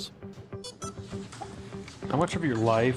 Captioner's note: drone beeps